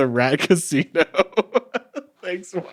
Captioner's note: chuckling